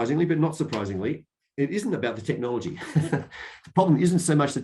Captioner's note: laughs